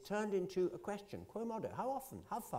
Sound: italian

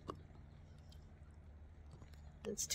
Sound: none

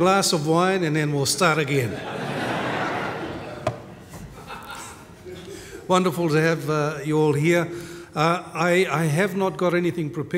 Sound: laughter

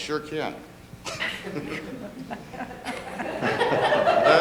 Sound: laughing

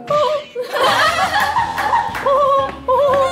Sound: laughing

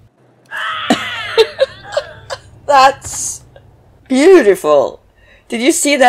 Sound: laughs

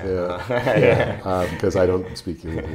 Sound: laughing

